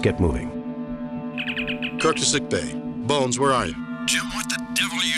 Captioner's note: Communicator Open Sound